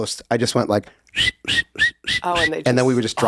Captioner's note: whistles